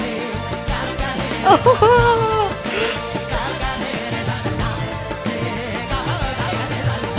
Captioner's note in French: musique Qawwali optimiste; en riant